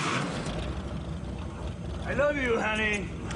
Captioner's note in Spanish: Ruido de motor